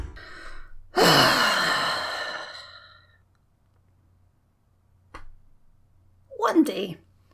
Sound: long frustrated sigh

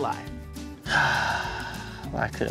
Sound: sighs

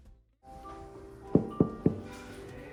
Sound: knock knock knock

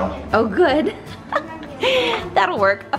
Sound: laughs

